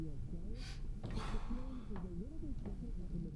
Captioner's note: sniffs